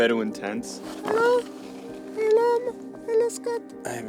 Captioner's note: in falsetto